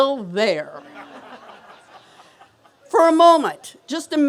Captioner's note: laughter